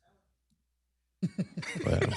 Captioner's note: laughter; laughs